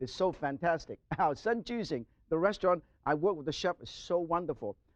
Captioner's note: chuckles